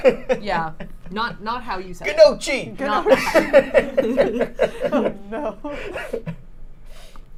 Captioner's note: laughs